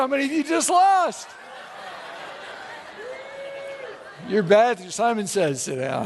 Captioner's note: audience laughs